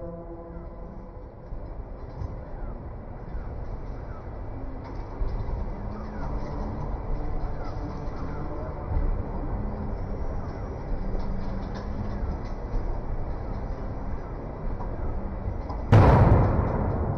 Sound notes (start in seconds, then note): 0.3 birds chirping; 13.5 gun blaring